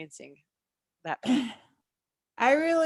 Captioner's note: clears throat